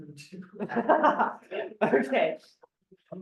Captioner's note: more laughter